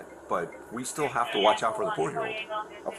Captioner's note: radio chatter